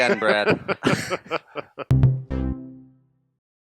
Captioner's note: laughter